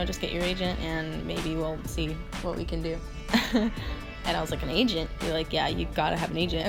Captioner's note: laugh